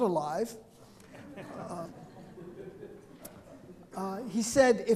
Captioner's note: audience members chuckling